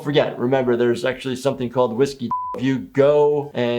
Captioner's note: beep